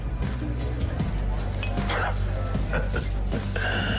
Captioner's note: laughing